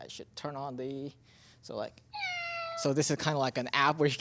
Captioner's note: cat meows